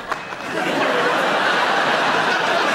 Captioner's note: laughing